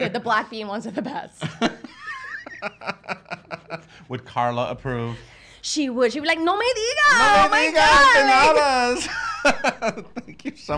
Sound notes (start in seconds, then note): 1.5 laughing; 6.7 foreign language; 8.6 laughing